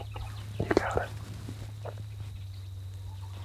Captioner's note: whispering